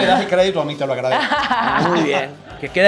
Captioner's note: laugh